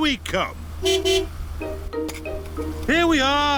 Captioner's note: honks horn